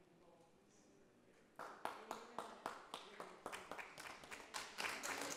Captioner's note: group applauds